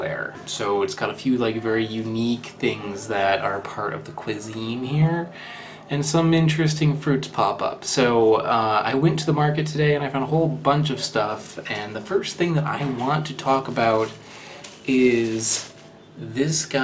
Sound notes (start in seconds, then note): none